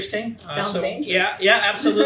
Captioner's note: laughs